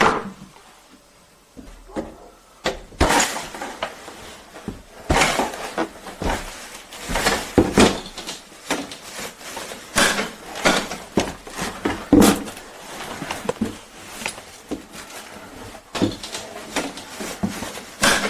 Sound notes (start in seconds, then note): 9.8 breaking of wood; 13.4 footsteps and cracking